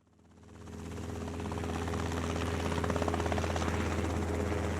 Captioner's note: helicopter whirls